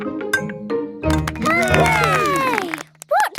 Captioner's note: all cheer